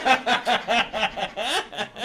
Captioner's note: laughter